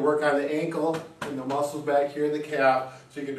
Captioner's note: hand tapping